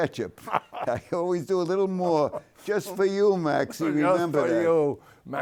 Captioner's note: laughs